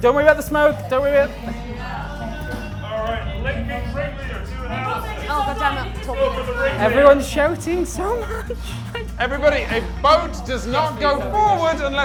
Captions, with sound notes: Don't worry about the smoke. Don't worry about it! (everyone shouting) Everyone's shouting so much. - Everybody, a boat does not go forward